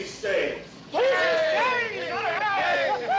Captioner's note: men cheering